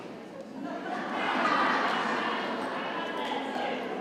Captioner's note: crowd laughing